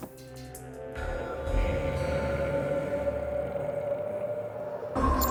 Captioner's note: snoring